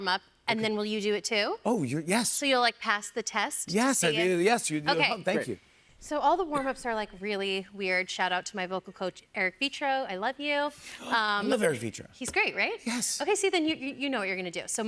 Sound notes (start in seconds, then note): none